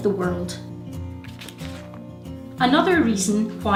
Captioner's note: pages rustle